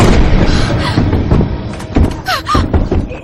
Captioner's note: pounding on door